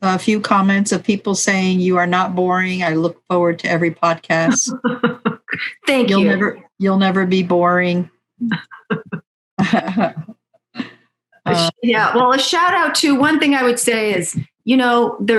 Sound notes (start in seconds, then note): 4.4 laughs; 9.6 laughing